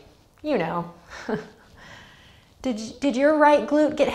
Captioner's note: laughs